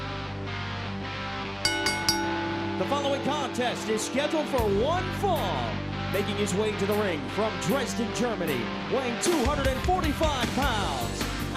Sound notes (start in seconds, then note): 1.6 bell